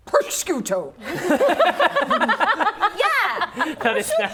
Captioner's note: laughing